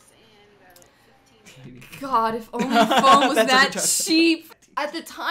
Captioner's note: cracks up